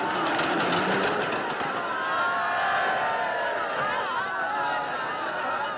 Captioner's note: Todos aplaudindo, tagarelando